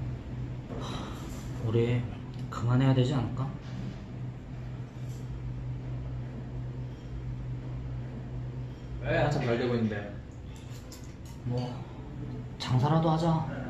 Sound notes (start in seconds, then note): 0.8 sigh